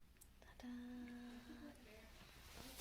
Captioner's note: quietly